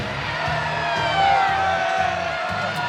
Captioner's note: cheering